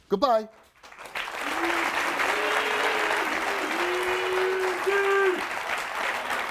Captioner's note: audience clapping and cheering